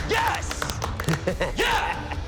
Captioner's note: chuckles